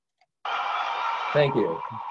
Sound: crowd cheers

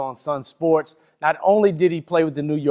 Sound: none

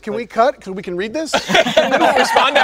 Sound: all laughing

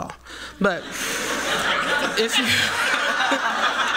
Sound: laughter

